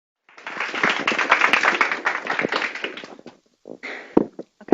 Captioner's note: audience applause